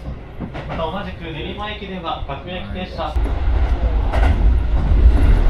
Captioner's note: speaking Japanese